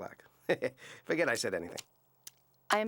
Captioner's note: chuckles